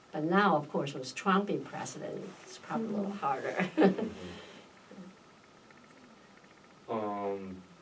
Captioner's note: laughs